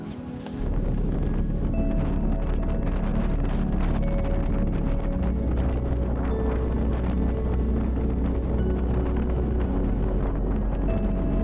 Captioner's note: wind